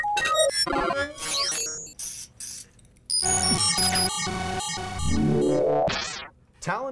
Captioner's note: robotic glitching and whirring